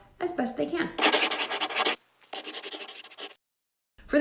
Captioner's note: scribbling